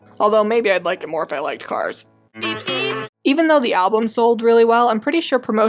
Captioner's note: beep beep